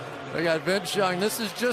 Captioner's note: booing